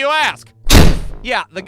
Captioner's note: thud!